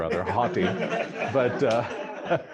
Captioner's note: laughter